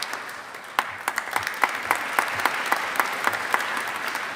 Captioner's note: audience applauding